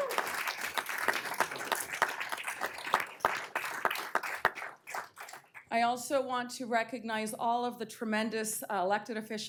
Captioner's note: applause